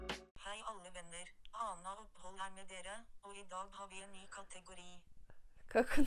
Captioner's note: Norwegian speech